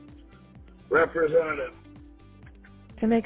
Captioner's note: male Voice